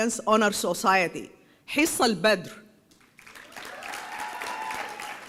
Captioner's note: applause